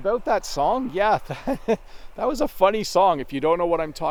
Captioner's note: chuckles